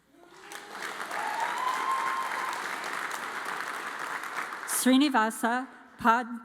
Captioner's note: audience cheers and applauds